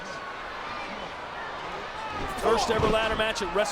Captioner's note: audience chattering